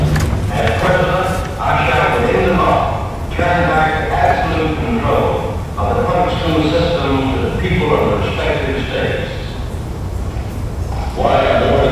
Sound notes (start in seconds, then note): 2.6 crashing noise